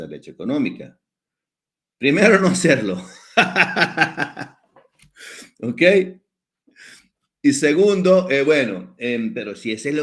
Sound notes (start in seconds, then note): 3.1 laughs